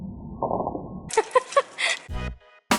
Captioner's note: laughter